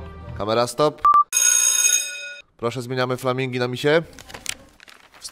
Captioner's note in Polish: dźwięk dzwonka